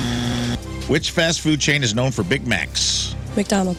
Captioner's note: buzzer